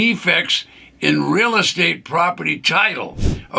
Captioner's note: screen whooshes